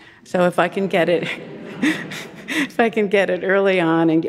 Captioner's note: audience chuckling